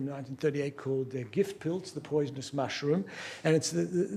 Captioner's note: non-english speech